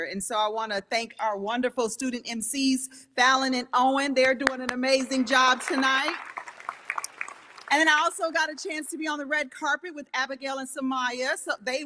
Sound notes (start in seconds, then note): 6.7 audience applauding